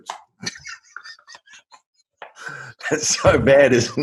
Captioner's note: laughs